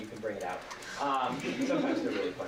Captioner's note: laughter